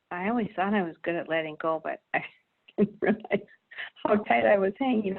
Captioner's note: laughs